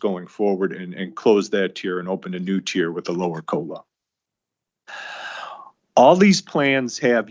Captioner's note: sighs and gasps